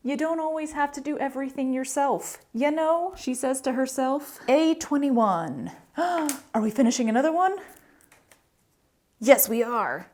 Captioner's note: gasp